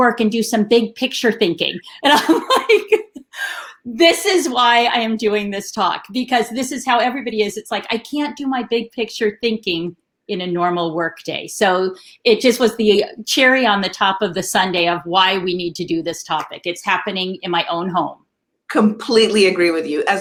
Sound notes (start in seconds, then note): 2.0 laughing